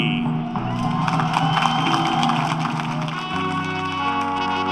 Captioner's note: applause